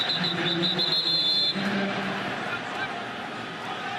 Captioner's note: whistles